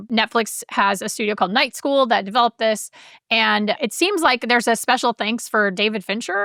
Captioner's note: none